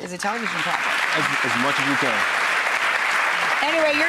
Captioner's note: applause